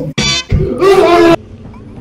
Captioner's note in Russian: Коллективное ААААААА